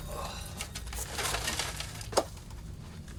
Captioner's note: grunts